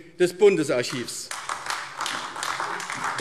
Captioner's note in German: Beifall AfD